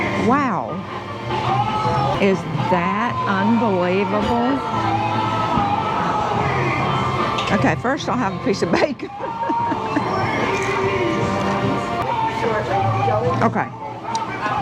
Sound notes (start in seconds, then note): 5.3 faint music; 8.6 chuckles